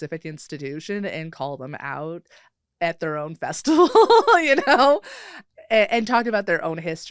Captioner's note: laughs